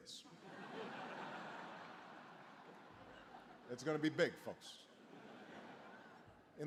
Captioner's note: laughter